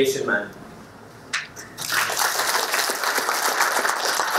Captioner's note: applause